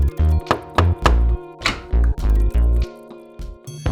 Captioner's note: door opens; knocking